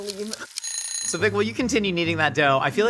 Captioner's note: alarm ringing